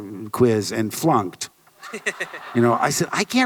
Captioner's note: audience laughter